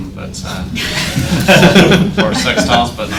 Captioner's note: audience laughs